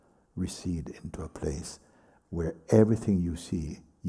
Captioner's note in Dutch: none